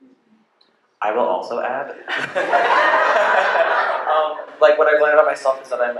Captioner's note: laughter